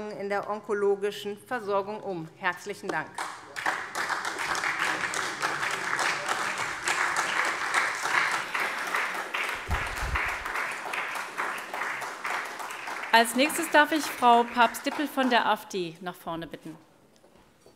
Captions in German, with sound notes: in der onkologischen Versorgung um. [Beifall SPD] Als Nächste darf ich Frau Papst-Dippel für die AfD nach vorne bitten.